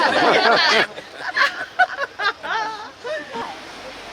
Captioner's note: laughter